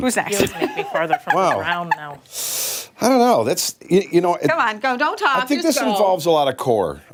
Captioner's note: laughter